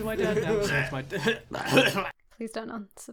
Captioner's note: coughing and spluttering